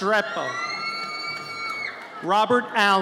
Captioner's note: audience cheers